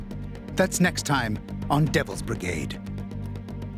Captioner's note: voiceover